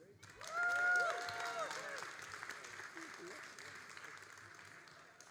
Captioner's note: all applauding and cheering